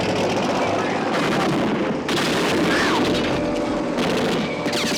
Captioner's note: Annie screams; gunshots